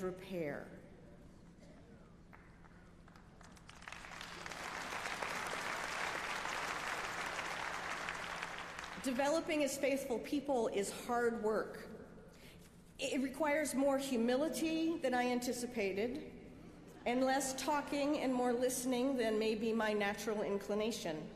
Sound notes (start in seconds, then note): 6.1 applause